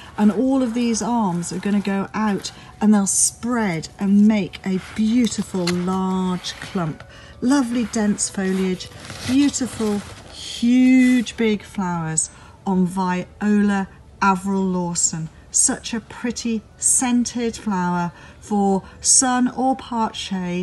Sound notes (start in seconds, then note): 6.3 flower leaves rustle